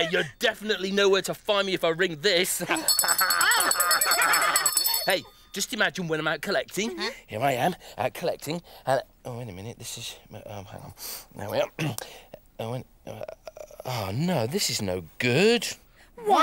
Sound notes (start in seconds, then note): 2.7 bell ringing; 4.9 laughing